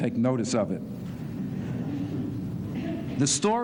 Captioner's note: laughter